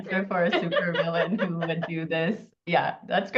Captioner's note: laughs